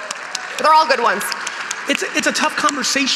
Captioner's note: audience applauding